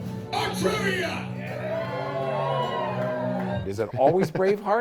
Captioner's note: cheering